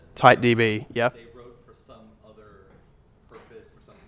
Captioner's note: voiceover